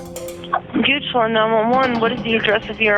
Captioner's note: voiceover